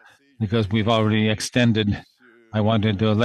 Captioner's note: speaking French